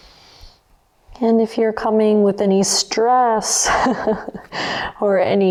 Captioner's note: laughs